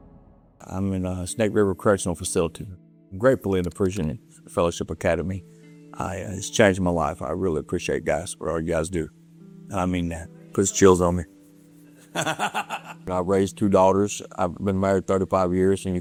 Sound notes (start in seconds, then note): 12.1 laughing